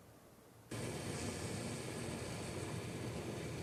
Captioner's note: pot boiling